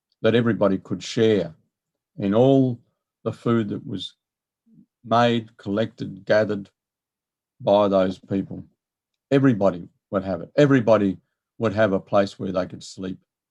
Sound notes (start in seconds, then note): none